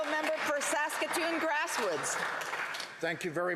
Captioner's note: some Applause